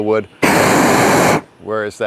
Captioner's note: torch roaring